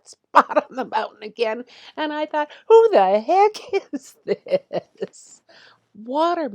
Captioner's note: chuckling